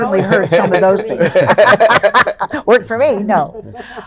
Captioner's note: both laugh